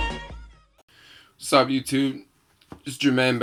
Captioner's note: voiceover